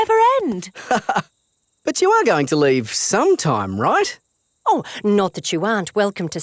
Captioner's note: laughs